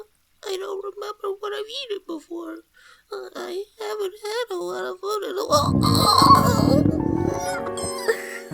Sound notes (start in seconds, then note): 5.5 stomach growls intensely; 5.5 curls up crying in pain